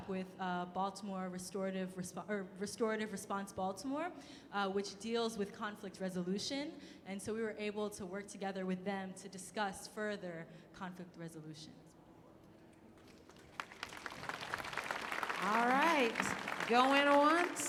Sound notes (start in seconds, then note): 13.0 clapping